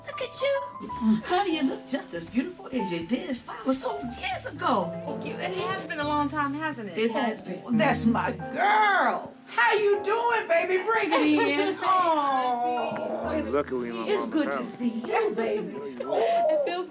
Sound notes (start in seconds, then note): 11.1 laughs